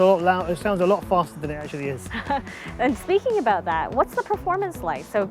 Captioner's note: laughs